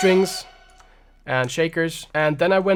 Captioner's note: high pitch sound